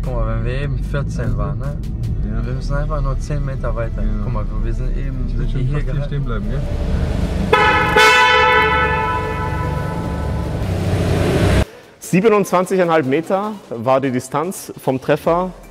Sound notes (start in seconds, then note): 6.5 horns blaring